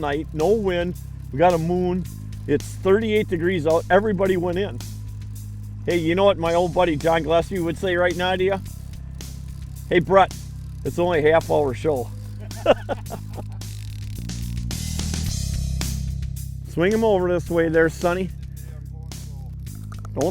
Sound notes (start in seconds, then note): 12.2 laughs